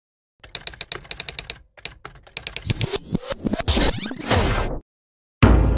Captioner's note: intro sound effects